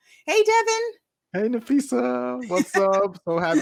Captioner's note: laughs